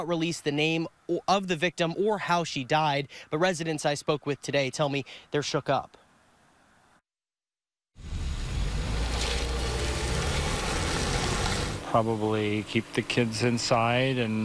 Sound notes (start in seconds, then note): 8.0 nats: state pd car driving